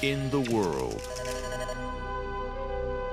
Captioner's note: beeps